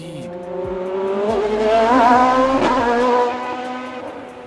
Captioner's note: engine revving